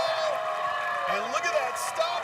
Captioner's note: cheers and applause